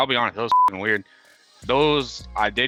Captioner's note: beep